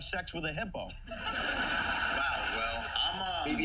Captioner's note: laughter